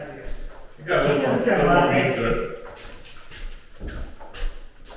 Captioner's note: indistinct conversation